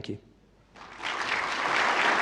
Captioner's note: audience applauds